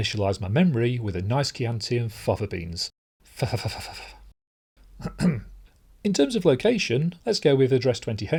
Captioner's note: ahem